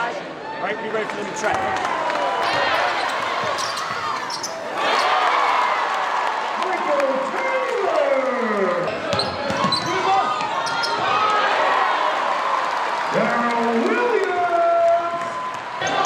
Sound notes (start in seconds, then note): 2.4 crowd cheers; 6.8 announcer yells; 11.5 crowd cheers